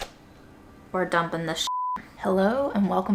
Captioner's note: beep